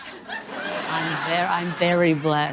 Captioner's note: audience laughing